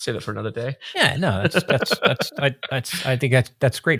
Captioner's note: laughing